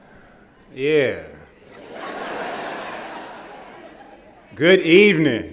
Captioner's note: laughter